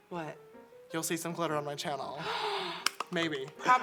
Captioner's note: gasp